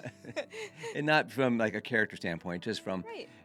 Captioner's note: laughs